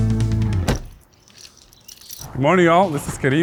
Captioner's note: door slams; birds chirp